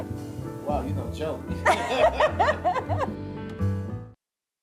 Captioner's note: laughs